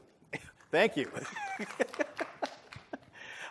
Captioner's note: applause